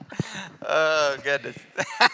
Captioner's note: laughs